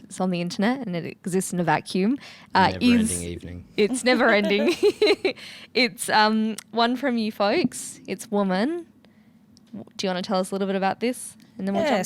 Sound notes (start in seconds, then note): 3.9 laughs